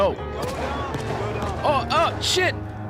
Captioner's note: gunshots